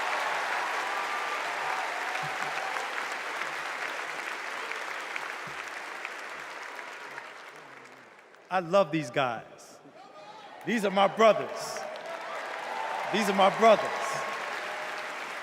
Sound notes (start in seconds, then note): 3.2 applause